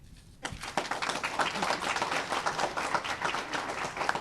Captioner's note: applause